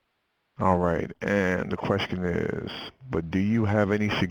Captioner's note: voiceover